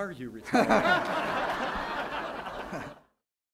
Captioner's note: laughter